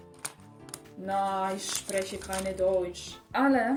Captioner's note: german yap